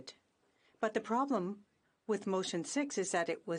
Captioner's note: speaking in French